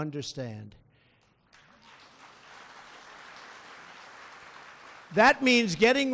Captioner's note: applause